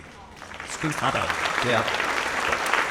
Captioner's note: audience applauds